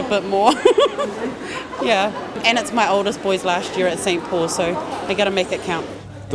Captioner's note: laughing